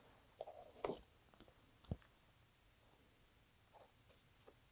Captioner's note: pages ruffling